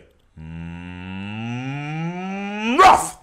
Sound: mooing noise; bark

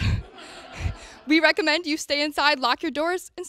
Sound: audience laughter

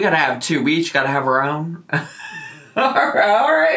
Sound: laughs

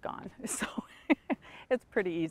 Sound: laughs

